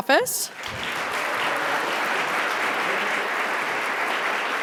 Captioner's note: audience applauding